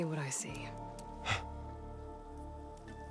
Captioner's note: gasp